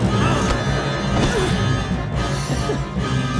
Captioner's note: grunts; laughs